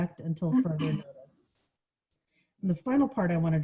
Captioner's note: coughing